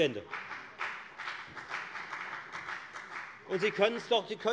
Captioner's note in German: Beifall bei der FDP